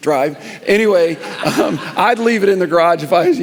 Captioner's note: congregation laughing